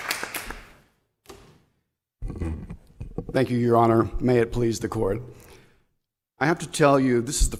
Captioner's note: applause